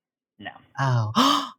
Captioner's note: gasp